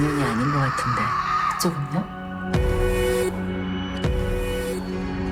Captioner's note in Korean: 비명